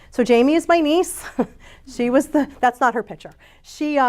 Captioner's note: chuckles